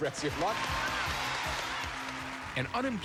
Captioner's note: cheers and applause